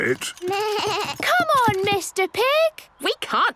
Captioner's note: bleating